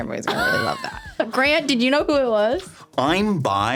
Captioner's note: laughing